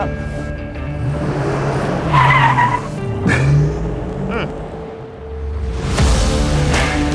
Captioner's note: tires squeal; engine revs; upbeat rock music